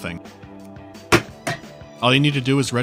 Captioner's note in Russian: дыщь